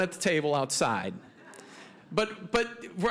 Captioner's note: audience laughing